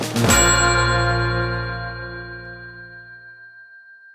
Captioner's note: bell dings